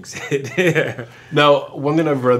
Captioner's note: laughs